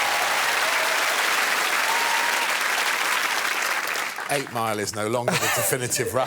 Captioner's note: cheers and applause